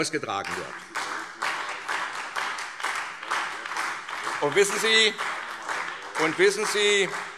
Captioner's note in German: Beifall SPD